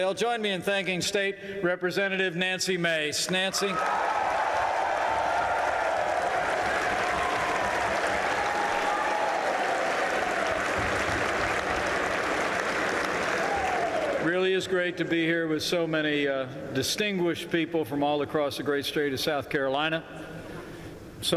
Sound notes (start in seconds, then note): 4.0 applause